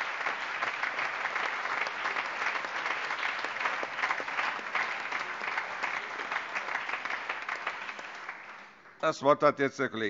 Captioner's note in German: Allgemeiner Beifall